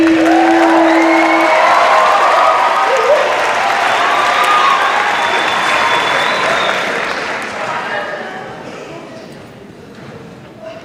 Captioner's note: cheers and applause